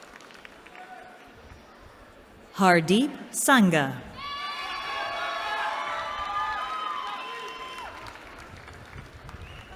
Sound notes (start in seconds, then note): 4.1 cheering